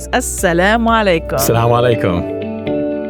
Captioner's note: both speaking non-English language; inspiring music